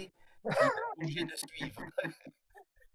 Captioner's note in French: rires